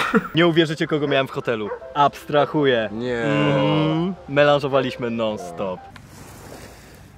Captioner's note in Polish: pomruki zachwytu